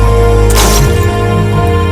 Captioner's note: bottle smashed